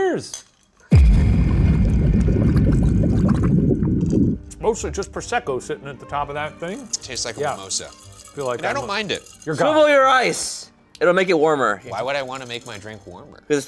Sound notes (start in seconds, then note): 0.9 liquid bubbling; 0.9 eerie music